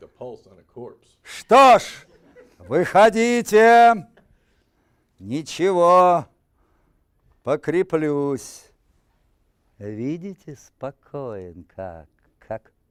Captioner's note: reciting poem in Russian